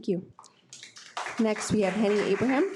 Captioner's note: audience applauding